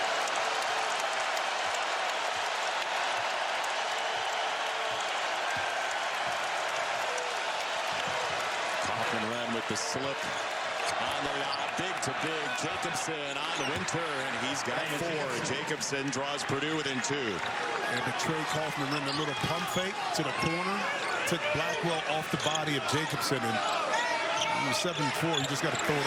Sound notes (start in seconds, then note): 7.6 cheers and applause